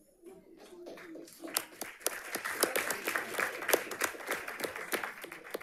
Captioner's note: audience applauding